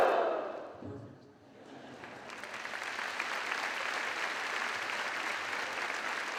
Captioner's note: audience applause